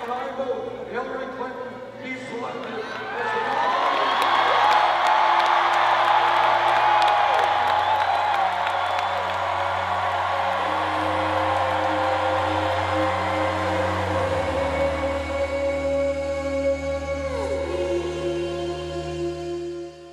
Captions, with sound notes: - And I move that Hillary Clinton be selected as the nominee! (cheers and applause) (somber ambient music)